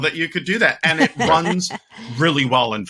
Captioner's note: laughing